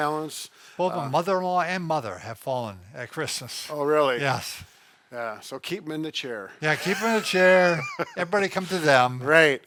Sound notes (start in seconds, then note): 6.7 laughing